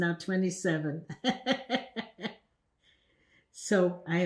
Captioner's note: laughing